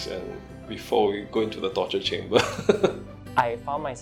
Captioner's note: laugh